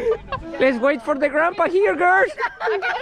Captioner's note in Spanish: Con voz de anciano